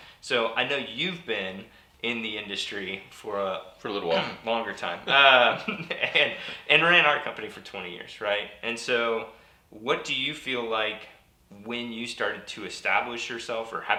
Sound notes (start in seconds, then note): 5.0 laughs